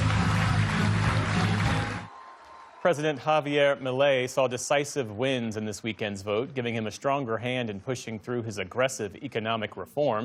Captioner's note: applause